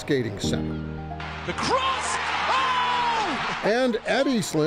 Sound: people cheering

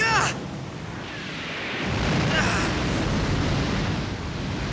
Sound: Van shouts; yells; whooshing

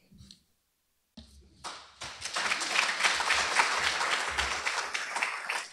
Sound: applause

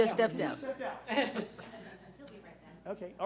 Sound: laughing

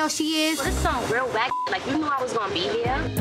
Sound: beep

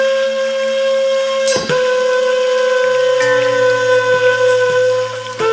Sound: metallic clanging

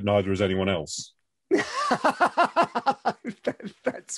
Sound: laughs

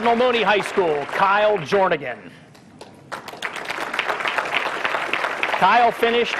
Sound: applause

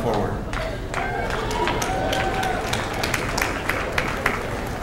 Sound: cheers and applause

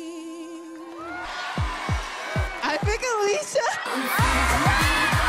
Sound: cheers and applause

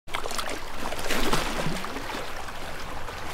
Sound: water splashing

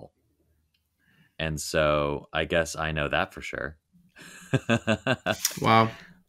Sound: laughing

